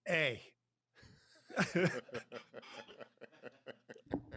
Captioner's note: both laugh